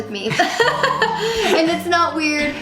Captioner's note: laughing